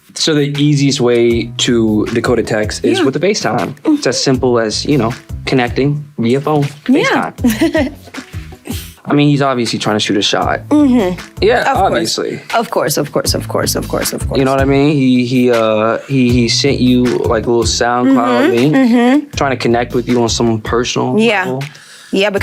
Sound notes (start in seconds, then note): 7.4 laughing